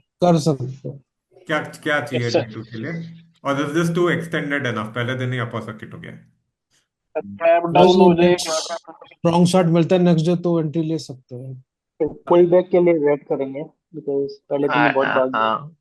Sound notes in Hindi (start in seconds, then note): none